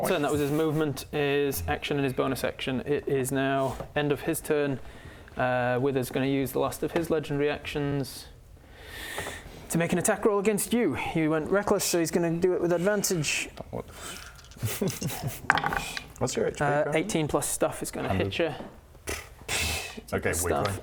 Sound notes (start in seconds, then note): 13.9 pff